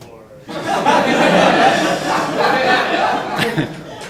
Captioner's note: audience laughing